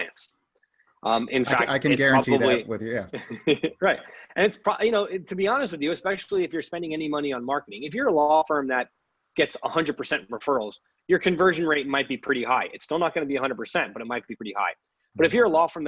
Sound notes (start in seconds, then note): 3.1 both laughs